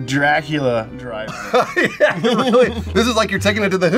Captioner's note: laughs